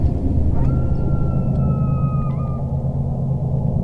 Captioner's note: dog howling